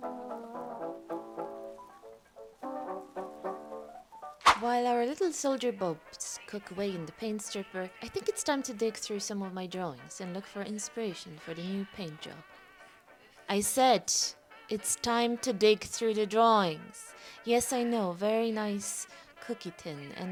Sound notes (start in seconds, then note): 4.4 woosh; 4.8 voice from off; 13.7 chipper music plays in the background; 15.9 chipper music plays in the background